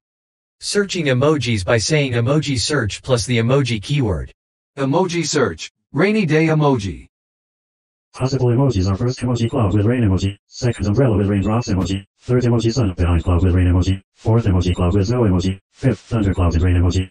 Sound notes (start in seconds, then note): 6.6 voiceover speaking